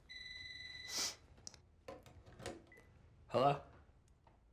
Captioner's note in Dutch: telefoon gaat